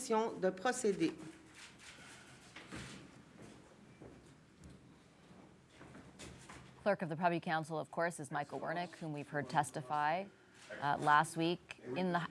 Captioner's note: speaking french